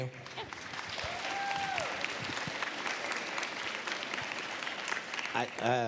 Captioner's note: cheers, applause